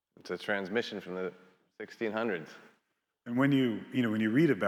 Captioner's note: none